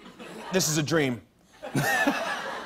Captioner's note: laughter